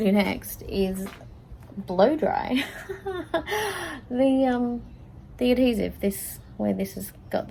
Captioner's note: laughs